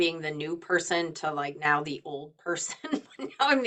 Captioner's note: laughing